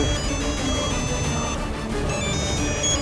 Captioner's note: phone ringing